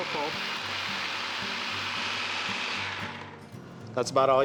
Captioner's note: buzzing, blending sound